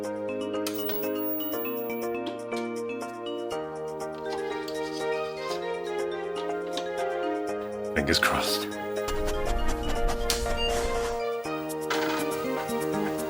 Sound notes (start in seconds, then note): 10.1 computer Beeps